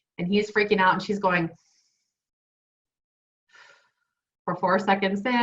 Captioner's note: inhaling and exhaling